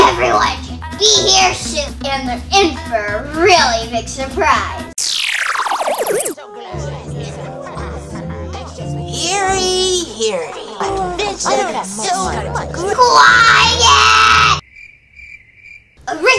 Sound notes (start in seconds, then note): 5.0 futuristic zapping; 6.7 crowd chattering; 10.3 crowd chattering; 14.6 crickets